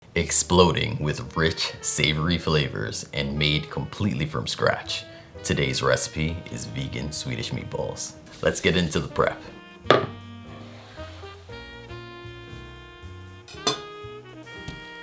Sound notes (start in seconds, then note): 10.6 board sliding